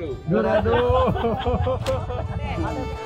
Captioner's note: laugh